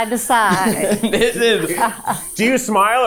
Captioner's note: chuckling